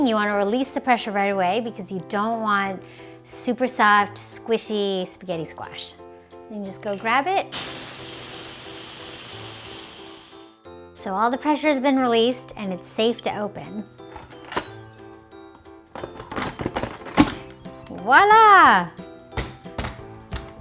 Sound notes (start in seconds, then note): 6.8 pot hissing; 14.4 beeping